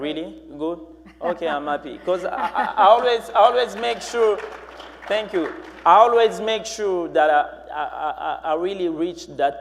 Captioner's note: applause